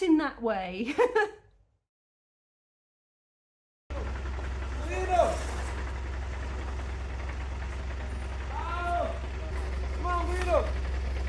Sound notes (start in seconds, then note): 3.9 truck noise; 3.9 people shouting